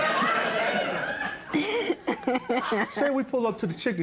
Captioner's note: laughter